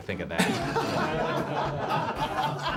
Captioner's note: laughter